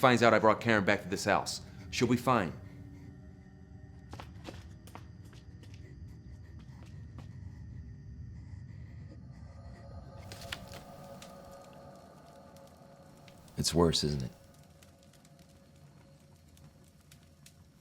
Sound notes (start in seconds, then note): 5.6 soft labored breathing